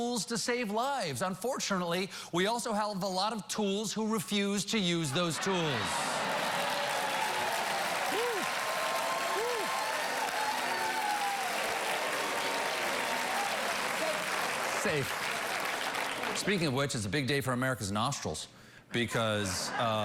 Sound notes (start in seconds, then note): 0.0 laughter; 1.1 applause